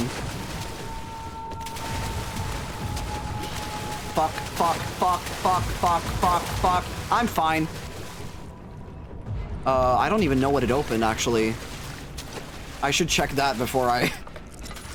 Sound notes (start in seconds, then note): 0.0 aggressive splashing; 11.6 splashing and growling